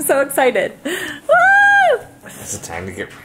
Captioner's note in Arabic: هتافات